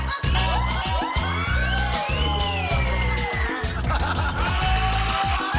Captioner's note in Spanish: risas